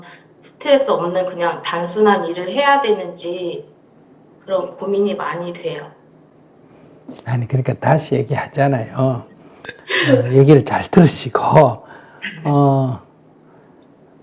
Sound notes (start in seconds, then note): 9.7 질문자 웃음